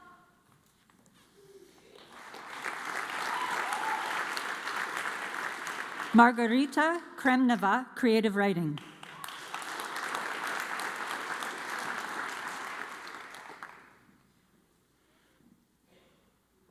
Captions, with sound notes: (audience cheers and applauds) Margarita Cremneva, Creative Writing. (audience applauds)